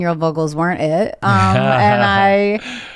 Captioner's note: laughs